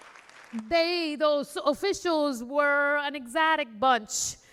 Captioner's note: applause